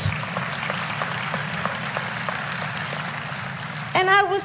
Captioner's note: applause